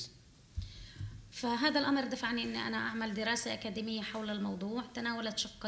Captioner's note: speaking arabic